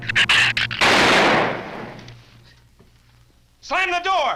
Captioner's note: shrew snarls; gun fires